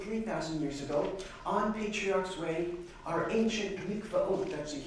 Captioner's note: non-english